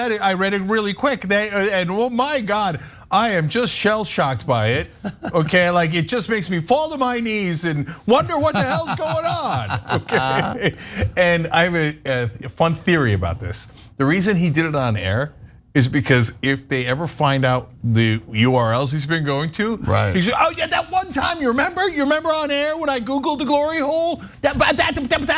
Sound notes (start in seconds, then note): 7.8 laugh